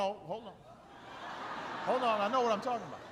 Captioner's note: laughter